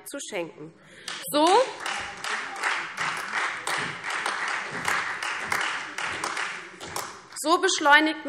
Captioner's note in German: Beifall CDU, Freie Demokraten und vereinzelt AfD